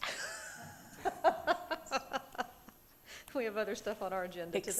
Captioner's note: laughing